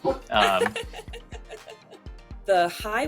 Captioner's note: laughing